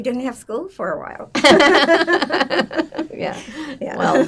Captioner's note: laughing